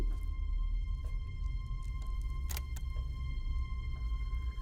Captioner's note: recorder clicks on